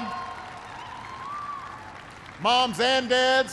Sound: applause

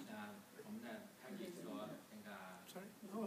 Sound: speaking foreign language

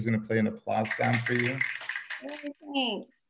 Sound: clapping

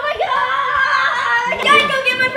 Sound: shouts

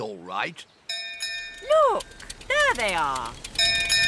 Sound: bell rings

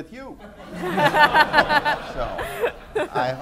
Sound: laughter

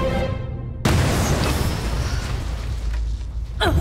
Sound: explosion

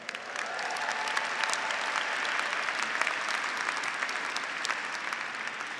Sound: graduates and faculty applauding

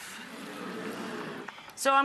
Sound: audience awes

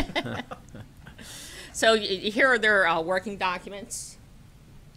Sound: laughter

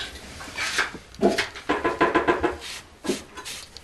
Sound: knocking in the background

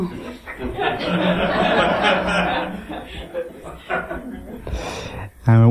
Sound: laughter

